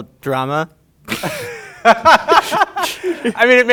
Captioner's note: laughing